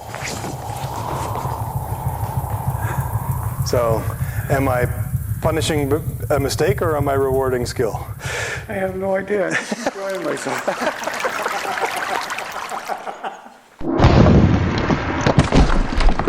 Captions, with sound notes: So, am i punishing a mistake or am I rewarding skill. I have no idea. I'm just enjoying myself. *laughter*